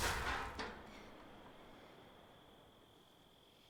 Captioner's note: water splashing; metal clanging